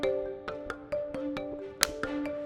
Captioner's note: marker snaps